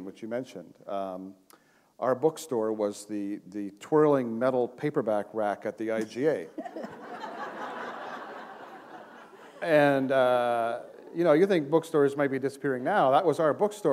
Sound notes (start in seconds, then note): 6.5 laughter